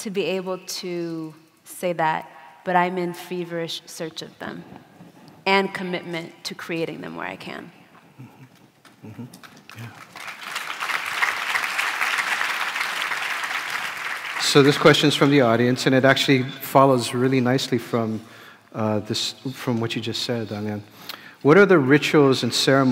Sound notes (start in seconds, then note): 16.8 applause